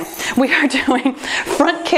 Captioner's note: laughs